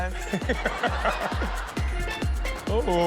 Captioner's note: audience laughs